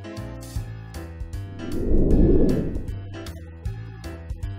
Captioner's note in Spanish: woosh